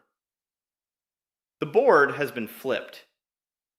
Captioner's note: pause